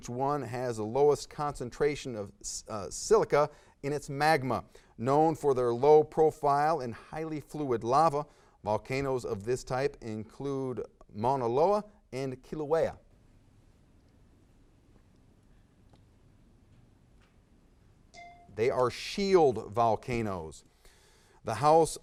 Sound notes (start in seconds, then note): 18.1 timer dings